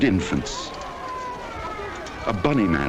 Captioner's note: crying